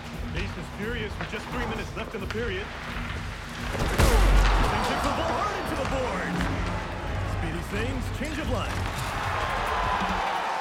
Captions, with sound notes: The pace is furious with just 3 minutes left in the period. (bang!) Hard into the boards! Speedy Singhs, change of line. (cheering)